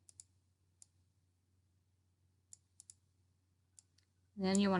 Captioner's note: mouse clicking